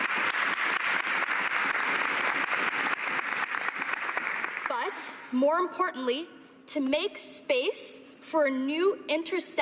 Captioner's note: cheering and Applause